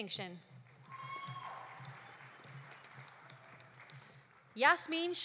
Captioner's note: audience applauding; audience cheering